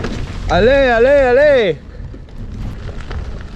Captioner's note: whooping